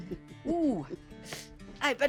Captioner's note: Betty and Charlotte chuckling